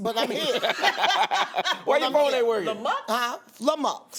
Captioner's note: laughter